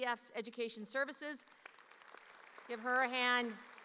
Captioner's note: audience applauding